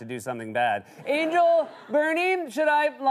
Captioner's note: laughter